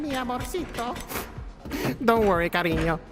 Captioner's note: sad sniff